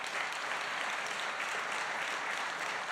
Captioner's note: applause